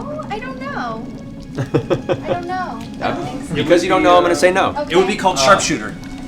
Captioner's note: laughs